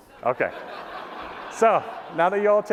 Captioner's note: laughter